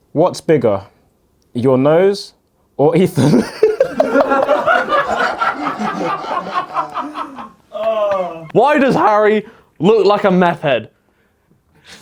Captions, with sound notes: what's bigger, your nose or Ethan? (audience laughs) (laughs) - Why does Harry look like a meth head?